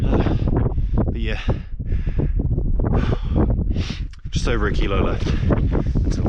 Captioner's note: tired pants